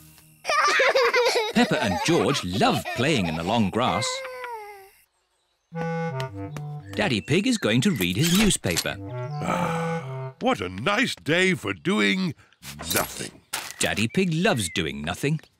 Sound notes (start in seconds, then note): 0.5 both giggle; 9.4 sighs